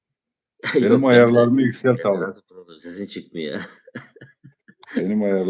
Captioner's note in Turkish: kahkaha